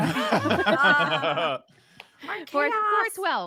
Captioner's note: laughing